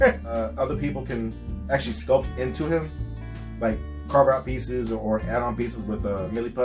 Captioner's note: chuckle